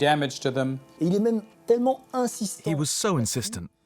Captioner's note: non-english speech